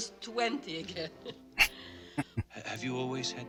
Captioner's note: chuckling